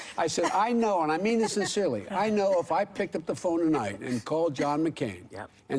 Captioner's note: laughter